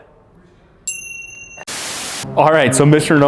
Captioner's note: bell rings